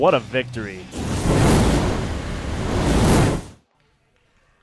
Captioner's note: sizzling fire sound